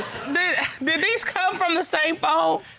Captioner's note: all chuckling